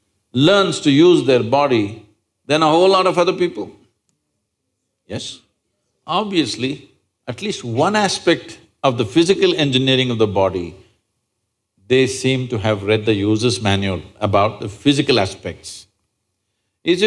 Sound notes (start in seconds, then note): none